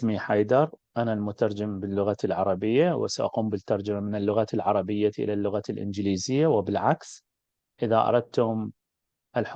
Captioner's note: interpreter introduces themselves in Arabic